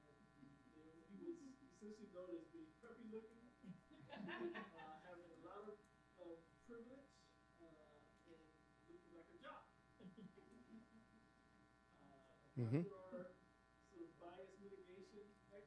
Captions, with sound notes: And he was, since we've noticed being preppy looking, (people laughing) Have a lot of privilege in looking like a jock. As for our bias mitigation exercise,